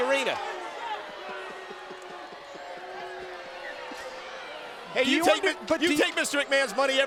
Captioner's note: crowd chatter